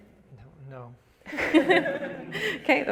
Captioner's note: audience laughs